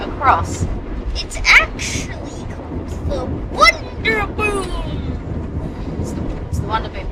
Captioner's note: mock announcer's voice